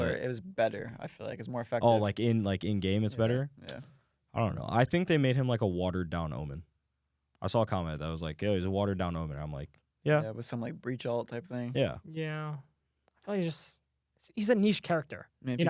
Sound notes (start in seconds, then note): none